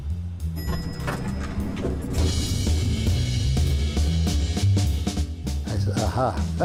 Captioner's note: bell dinging; upbeat jazz music